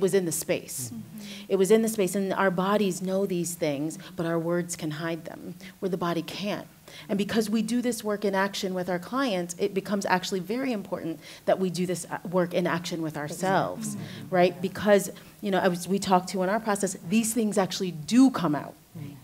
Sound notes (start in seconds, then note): 13.4 others agreeing